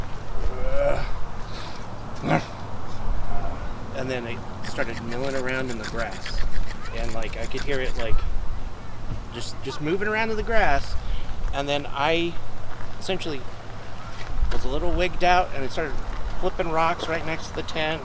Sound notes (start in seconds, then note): 2.2 growls